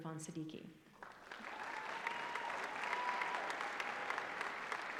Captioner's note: applause